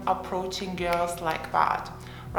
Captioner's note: snapping fingers